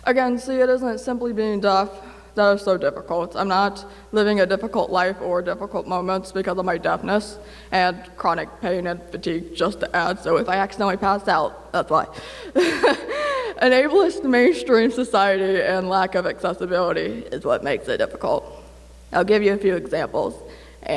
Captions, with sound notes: Again, see, it isn’t simply being deaf that is so difficult. I’m not living a difficult life or difficult moments because of my deafness, and chronic pain and fatigue, just to add. So if I accidentally pass out, that's why. (LAUGHS) An ableist mainstream society and lack of accessibility is what makes it difficult. I’ll give you a few examples.